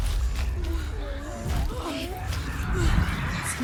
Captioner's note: gasping